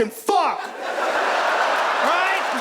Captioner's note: audience laughs